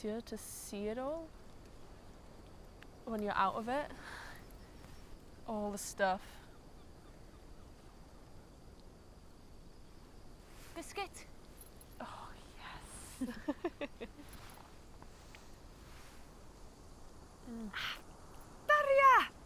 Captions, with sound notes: to see it all when you're out of it. All the stuff. Biscuit? (Whispers) Oh yes. (waves lapping) (wind blowing) Ah, daria.